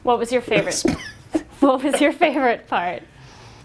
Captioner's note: laughs